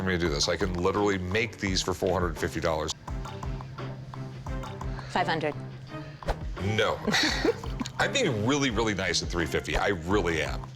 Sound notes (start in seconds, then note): 6.9 laughter